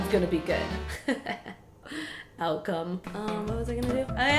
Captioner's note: sinister laughter